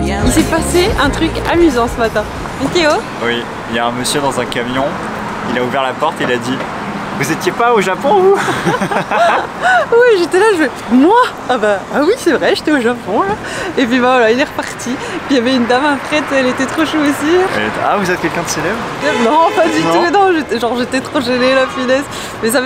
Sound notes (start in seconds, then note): 8.2 laughing